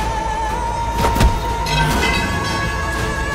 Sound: thud

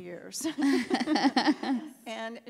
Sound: panelists laugh

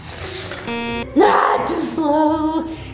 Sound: beeping

